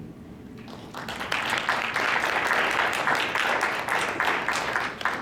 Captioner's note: applause